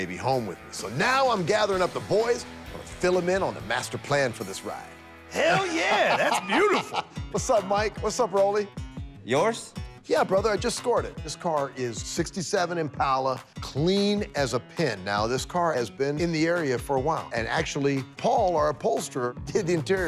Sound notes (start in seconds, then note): 5.3 laughs